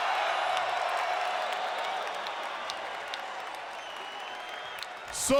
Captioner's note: applause